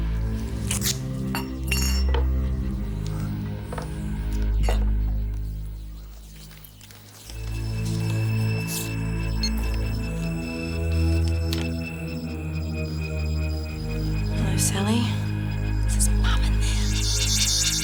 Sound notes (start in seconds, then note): 0.7 tape ripping; 2.9 suspenseful music; 9.2 recorder beeps